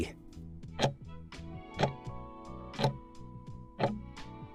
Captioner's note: timer ticking